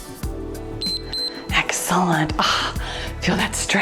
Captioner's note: timer beeps